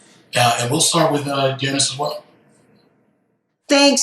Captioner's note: faintly speaking